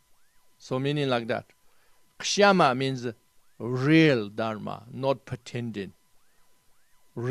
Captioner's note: tibetan